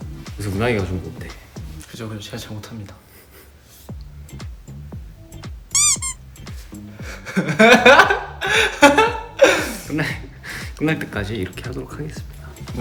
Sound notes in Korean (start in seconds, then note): 7.0 웃음